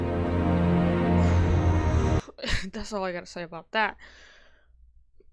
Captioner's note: exhales